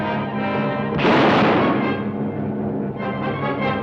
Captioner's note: gun fires